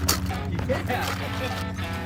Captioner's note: laugh